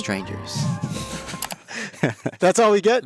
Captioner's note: everyone laughing